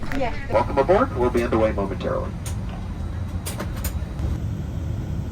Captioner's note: pilot over PA